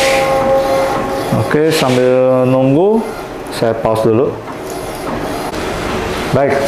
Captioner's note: praying sound; printer machine sound